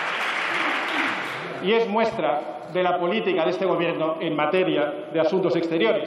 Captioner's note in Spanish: Aplausos